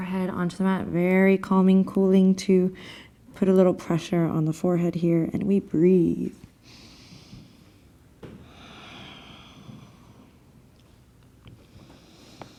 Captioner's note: breathing